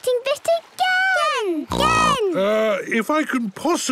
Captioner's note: snorts